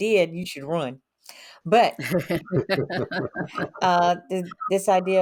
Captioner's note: all laughing